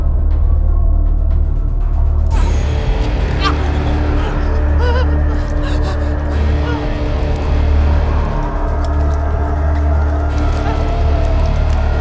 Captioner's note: whimpering